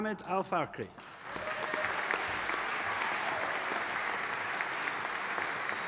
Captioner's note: audience applauding